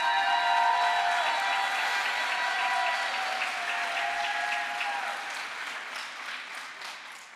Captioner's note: crowd applause